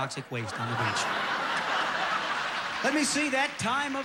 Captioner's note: audience laughing